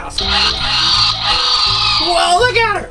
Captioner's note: dinosaur roar